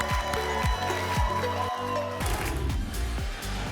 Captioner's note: applause and cheering